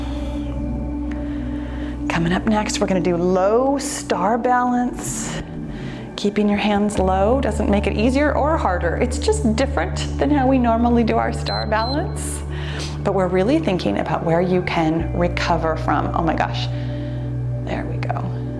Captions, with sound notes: Coming up next, we're gonna do a low star balance. Keeping your hands low doesn't make it easier or harder. It's just different than how we normally do our star balance, (timer beeps) but we're really thinking about where you can recover from. Oh my gosh. There we go.